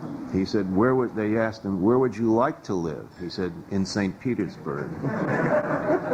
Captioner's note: weak laughter